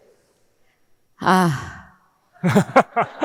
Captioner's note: sighing; audience laughing